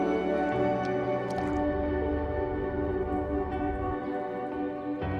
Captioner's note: water splashes; birds chirping